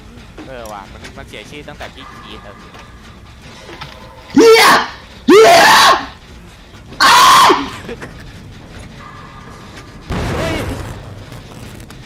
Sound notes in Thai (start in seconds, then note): 4.3 เ-ี้ย Ear-rape; 7.7 does giggle; 10.1 เสียงเครื่องปั่นไฟระเบิด